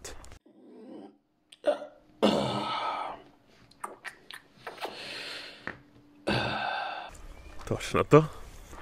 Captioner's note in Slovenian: zvoki zaspanega cmokljanja